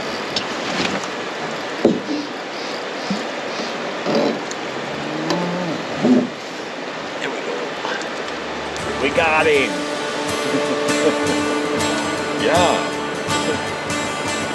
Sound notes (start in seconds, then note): 0.1 water flowing; 2.2 water flowing; 11.8 water flowing; 14.3 chuckling